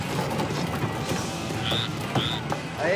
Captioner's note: upbeat music; frog chirping